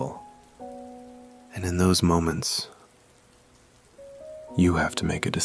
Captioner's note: soft breath